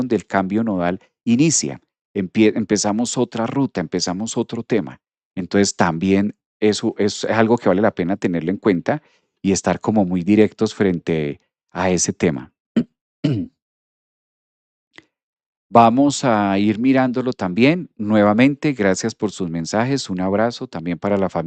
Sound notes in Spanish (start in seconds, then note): 13.2 carraspeo